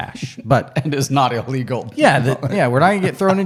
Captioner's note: laughs